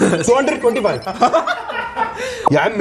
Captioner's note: laughter